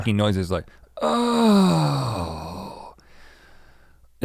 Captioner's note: moans